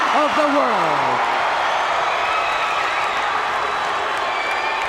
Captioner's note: crowd cheers and boos